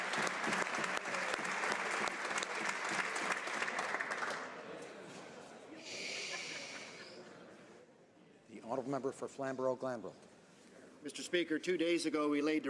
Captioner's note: applause